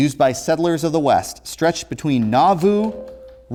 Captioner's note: ringing